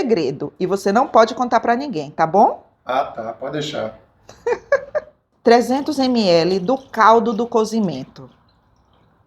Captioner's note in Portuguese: risadas